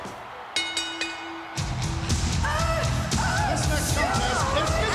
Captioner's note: upbeat music; bell ringing